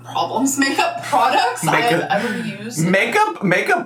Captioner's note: chuckles